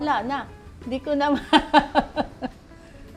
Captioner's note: laughs